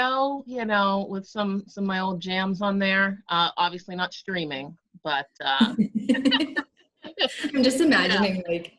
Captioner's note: both laugh